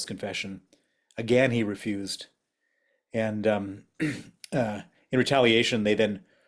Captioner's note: cough